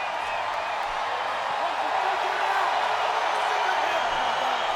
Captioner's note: audience cheering